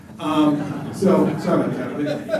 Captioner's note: laughter